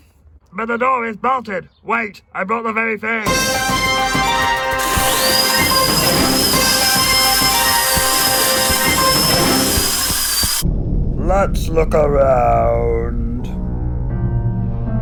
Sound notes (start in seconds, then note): 3.2 fast-paced music; 4.7 electric whisk; 13.6 sinister music